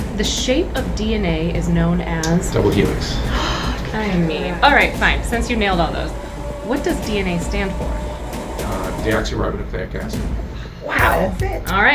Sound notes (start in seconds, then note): 3.0 gasps